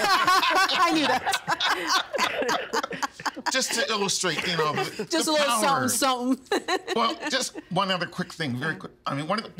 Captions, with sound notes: (All laughing) I knew that. Just to illustrate on the-- Just a little something, something. (Laughing) Well, just one other quick thing. Very quick.